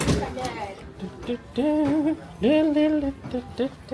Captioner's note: hums